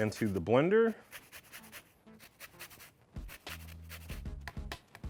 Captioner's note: grating noise